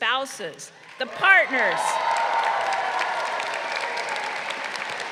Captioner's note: crowd cheering